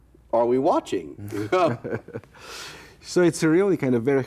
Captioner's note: both laughing